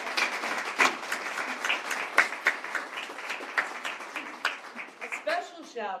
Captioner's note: applause